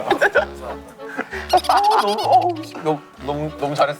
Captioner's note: laughing